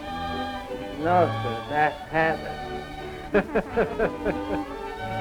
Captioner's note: laughs